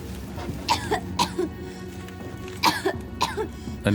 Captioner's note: the girl coughs